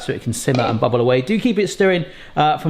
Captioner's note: lid clanks